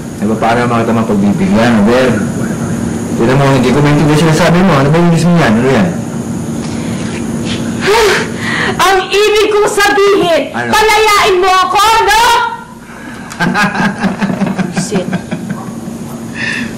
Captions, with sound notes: How can I grant your request? I don't understand what you're saying, see? What's that you're saying in English? [sighs] What I'm saying is... -What? ...set me free, okay? -[chuckles] -So annoying.